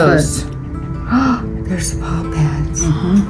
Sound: gasps

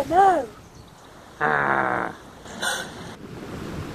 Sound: gasps; growls

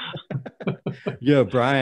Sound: laughing

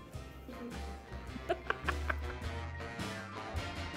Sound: laughing; jazzy music

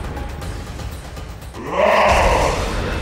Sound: growls

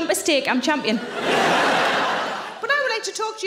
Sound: audience laughing

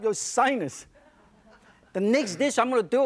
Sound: audience chuckles

